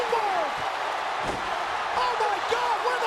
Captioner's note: audience cheering